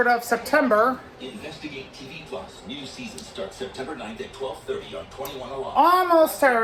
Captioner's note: "21Alive News at 5" plays in the background